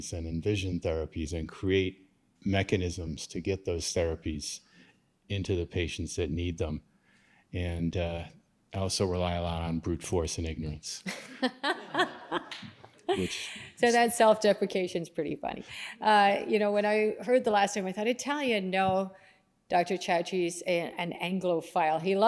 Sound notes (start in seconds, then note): 11.0 laughter